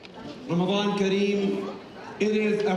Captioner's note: speaking in Arabic